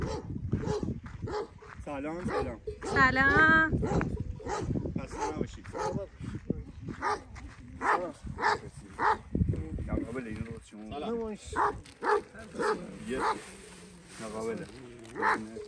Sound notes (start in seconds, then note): 3.7 barking